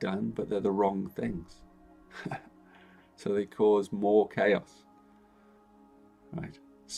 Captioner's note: chuckles